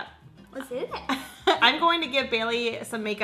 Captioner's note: laughs